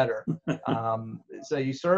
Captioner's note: laughs